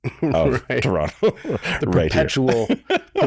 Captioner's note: chuckles